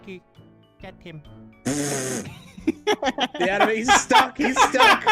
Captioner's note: laughing